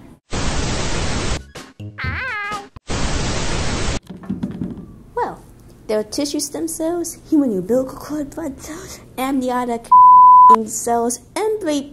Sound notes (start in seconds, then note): 0.3 static; 2.8 static